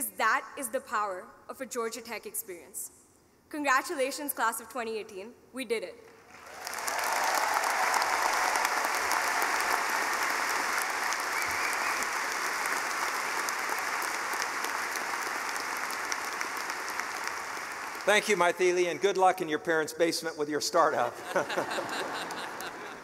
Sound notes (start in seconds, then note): 6.8 applauding; 22.8 laughing